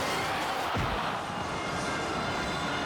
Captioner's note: body thuds; stern music